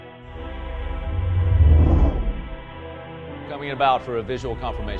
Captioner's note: spacecraft whooshing